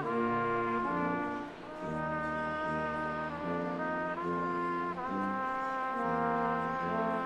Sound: none

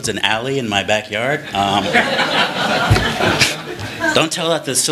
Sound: laughter

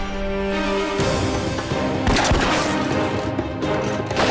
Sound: thrilling music; guns blasting

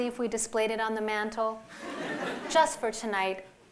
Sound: laughter

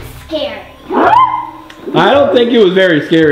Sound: gorilla growling

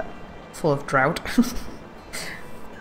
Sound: laughs

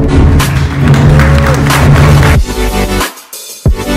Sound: applause; lively electronic music

